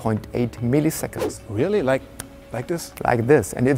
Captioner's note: parmağını şıklatıyor